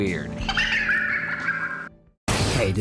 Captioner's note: ghostly girl laugh